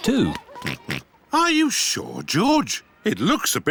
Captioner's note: oinks